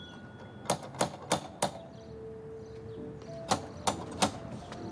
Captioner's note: doorbell ringing; door knocker banging